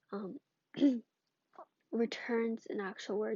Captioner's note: clears throat